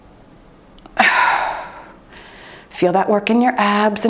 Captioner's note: breathes deeply